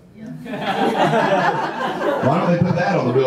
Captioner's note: audience laughter